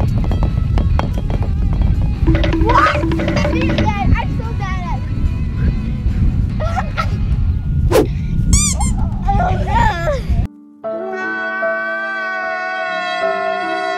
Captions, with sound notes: (timer counting down) I'm so bad at this! (laughs) (squeak) Oh no! (sad music, crying)